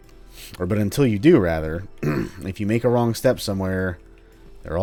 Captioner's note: clears throat